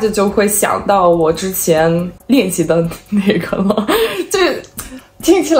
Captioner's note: conversation